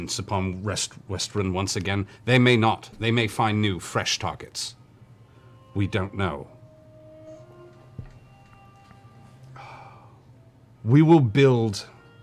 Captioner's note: long sigh